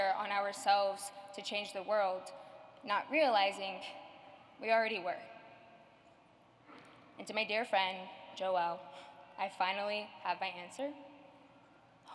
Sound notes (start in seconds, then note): none